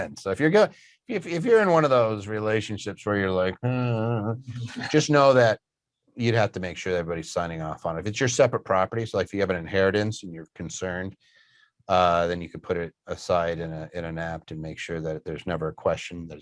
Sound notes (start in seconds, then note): 3.4 grumbles